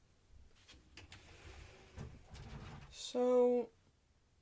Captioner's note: closet door opens